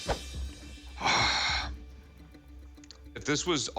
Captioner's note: sighing